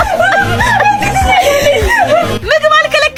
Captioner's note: laughter